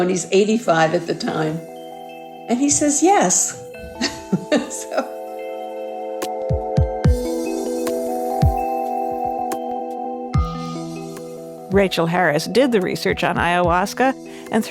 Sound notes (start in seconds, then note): 3.8 laughs; 5.5 lighthearted music